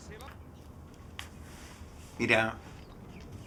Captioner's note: tv clicks off